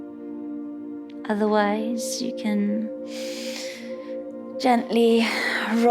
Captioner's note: inhales